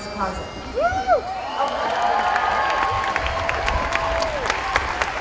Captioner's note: cheering